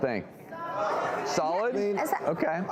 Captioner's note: audience shouting answers